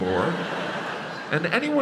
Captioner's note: crowd laughs